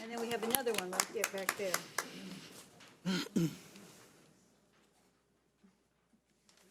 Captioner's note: audience applauds